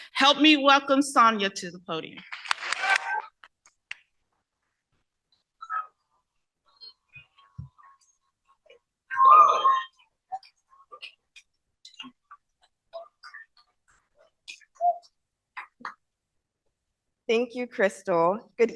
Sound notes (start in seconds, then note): 2.6 cheering